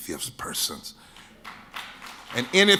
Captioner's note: audience claps